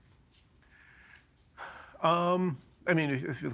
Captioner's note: sighing